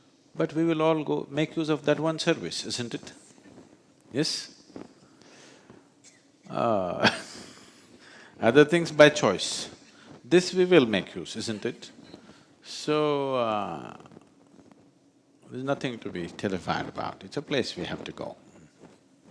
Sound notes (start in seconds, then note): 5.7 laughs